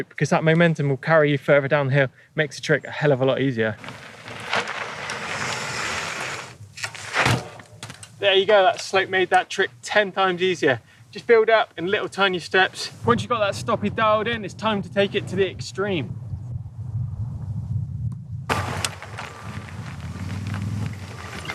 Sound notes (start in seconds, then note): 4.1 dirt grinding; 18.4 dirt grinding